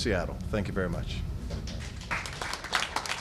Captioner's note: applause